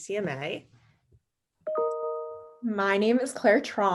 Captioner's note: ding